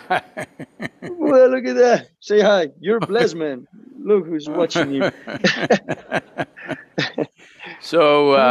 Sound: both laugh; both laugh

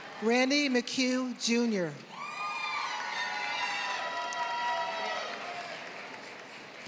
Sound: applause

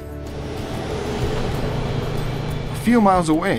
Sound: truck engine roars

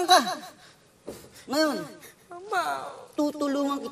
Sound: Michael sobs

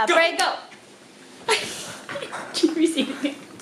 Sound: laughing

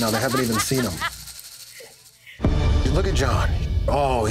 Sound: bartender laughing

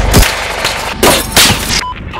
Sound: marksmen rifle fire; glass shattering, bullets impacting

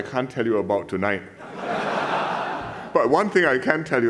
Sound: laughter

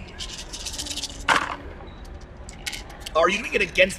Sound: dice rattling

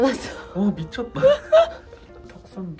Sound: laughs

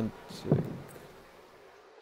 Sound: heartbeat

